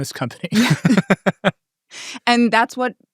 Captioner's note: people laughing